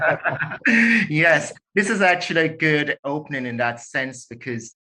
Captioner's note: laughing